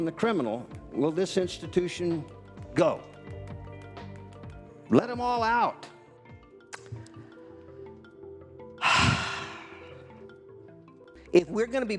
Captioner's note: sigh